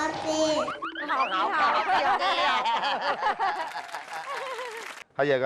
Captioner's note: crowd